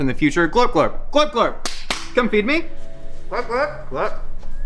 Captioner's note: claps